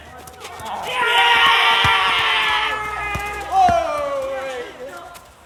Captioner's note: loud excited cheers